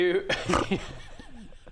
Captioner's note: giggles